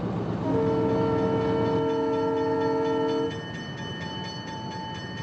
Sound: horn blaring, bell clanging

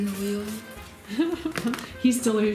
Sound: laughing

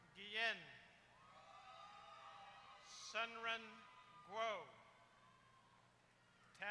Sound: applause

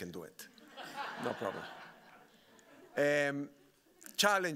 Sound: audience laughing

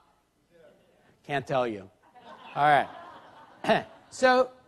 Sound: laughter

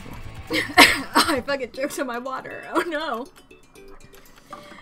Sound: starts coughing

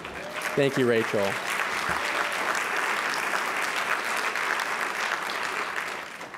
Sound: applause

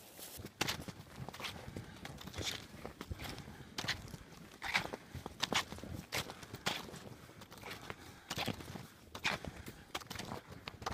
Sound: footstep crunching snow

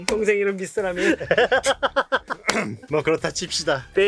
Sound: speaking in Korean; laughs; speaking in Korean

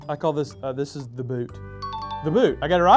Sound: dinging

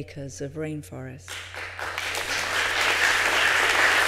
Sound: applause

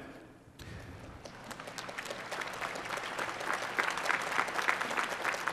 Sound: applause

